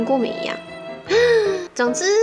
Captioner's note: exhales